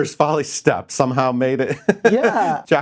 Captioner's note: laughs